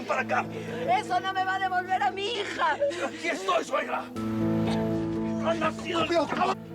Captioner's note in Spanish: sollozos